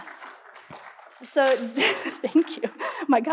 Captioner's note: applause